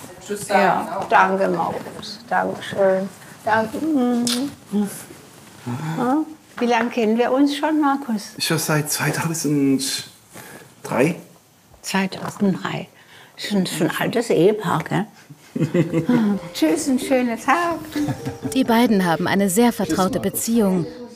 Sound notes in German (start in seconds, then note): 15.5 Kichern